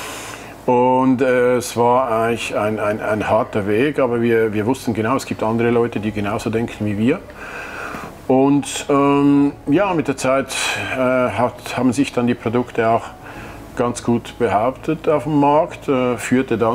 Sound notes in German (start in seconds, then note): none